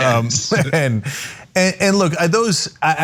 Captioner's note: laugh